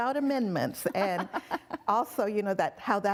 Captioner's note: laughing